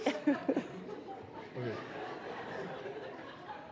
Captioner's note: light laughter